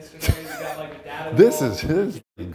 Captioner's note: laughing